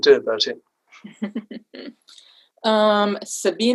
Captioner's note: laughs